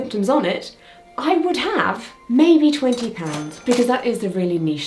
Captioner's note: cash register ka-chings